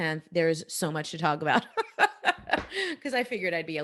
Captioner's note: laughing